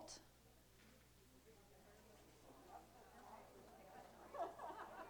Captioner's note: chatter